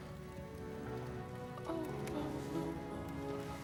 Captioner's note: moan